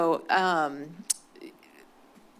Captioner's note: clicks tongue